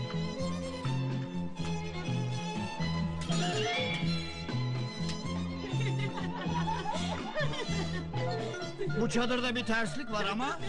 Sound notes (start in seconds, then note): 5.5 girls laughing